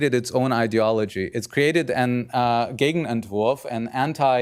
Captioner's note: speaking german